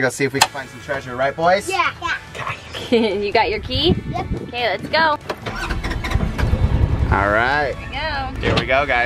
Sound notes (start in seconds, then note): 5.4 engine starts